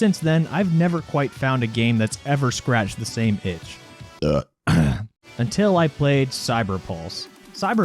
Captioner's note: burp